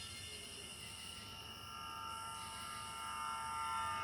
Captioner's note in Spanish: gorjeo de los insectos